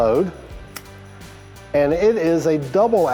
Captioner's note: cylinder clicks